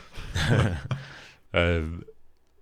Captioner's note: both snigger